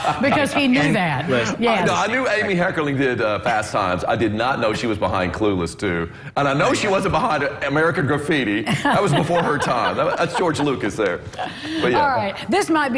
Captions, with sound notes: IT WAS BASED OFF OF A NOVEL AND IT APPEARS THAT RON IT IS GOING WITH ALL AMY CURLING MOVIES! [LAUGHTER] BECAUSE HE KNEW THAT!